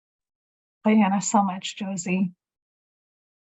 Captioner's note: speaking in Native language